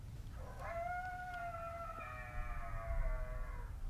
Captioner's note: call howling